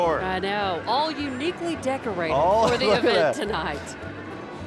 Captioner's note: laughing